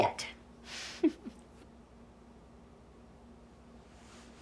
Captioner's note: Holly chuckling